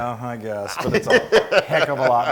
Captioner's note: laugh